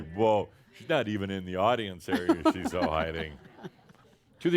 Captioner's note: chuckles